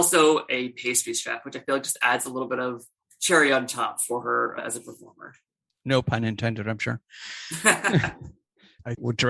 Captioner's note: laughter